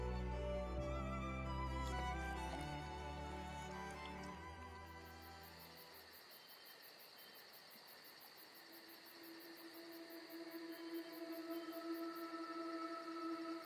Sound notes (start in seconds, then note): 5.0 insects chirping; 9.0 gentle music